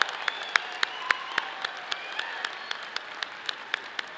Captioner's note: people cheer; people whistle